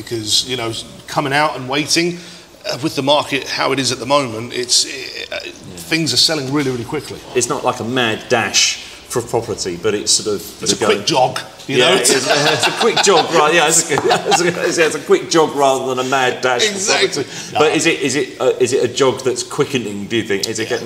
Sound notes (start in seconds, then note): 11.8 laughing